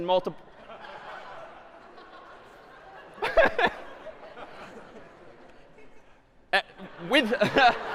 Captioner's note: laughter